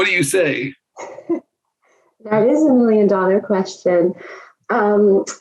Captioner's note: laughs